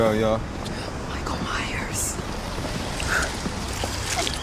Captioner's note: whispers spookily; laughing